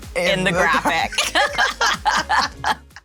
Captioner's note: both laughing